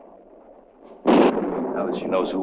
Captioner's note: thunder rumbling